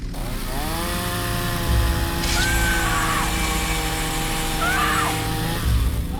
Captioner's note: chainsaw revs; Abby screams